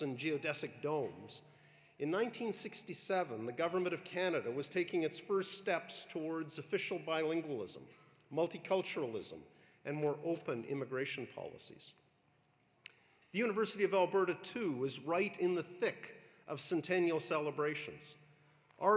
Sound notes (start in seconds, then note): none